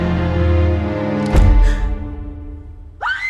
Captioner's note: door slams; screams